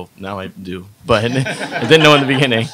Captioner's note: audience laughs